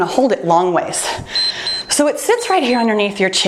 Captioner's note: timer beeps